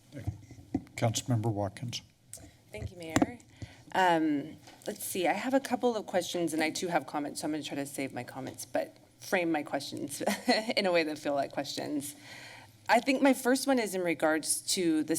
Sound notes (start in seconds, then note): 10.2 giggles